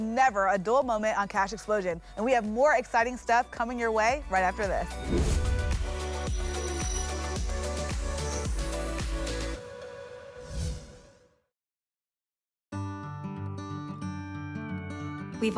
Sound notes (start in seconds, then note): 4.9 whoosh; 10.4 whoosh